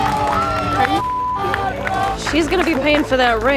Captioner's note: beeping; all cheering and clapping